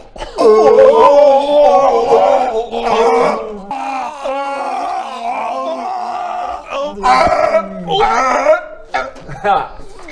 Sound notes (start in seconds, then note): 0.3 hhhrrrrrrrggghgggggghgglgh; 3.6 arrrrg-rrrrrghh-ughrrrrrrrrgh; 8.1 still retching